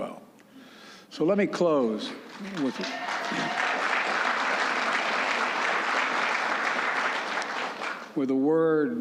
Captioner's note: applause